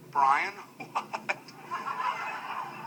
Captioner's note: laughing painfully